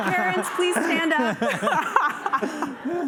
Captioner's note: laughter